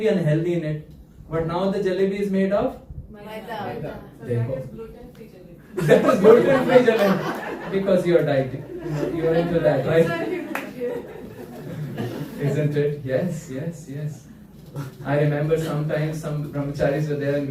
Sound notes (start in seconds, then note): 5.7 laughter